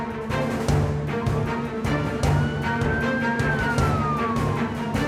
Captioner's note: police sirens